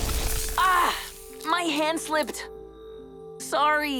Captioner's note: Jae screams